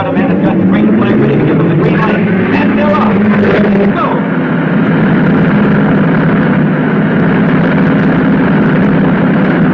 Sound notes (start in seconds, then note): 0.1 cars thrumming; 4.1 cars thrumming